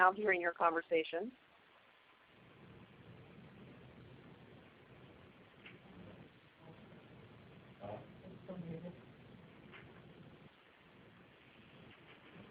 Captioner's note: silence